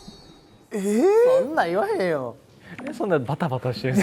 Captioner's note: laughs